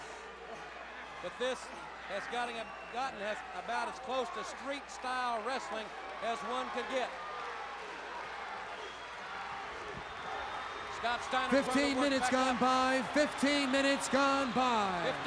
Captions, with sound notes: But this has gotten as about as close to street style wrestling as one could get. [Crowd cheering] 15 minutes gone by 15 minutes gone by.